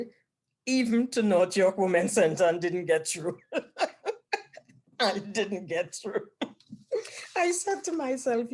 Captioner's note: laughs